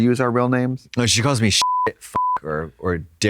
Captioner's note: beep